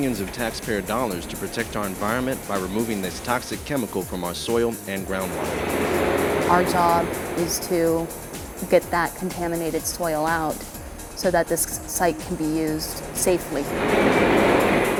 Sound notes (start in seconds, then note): 5.1 sounds of excavator machinery; 12.0 sounds of excavator